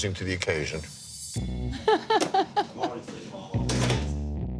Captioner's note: bartender laughs